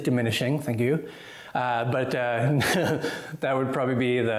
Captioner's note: laughs